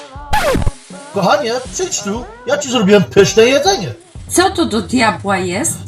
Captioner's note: speaking in foreign language